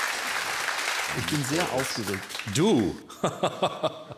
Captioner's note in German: lacht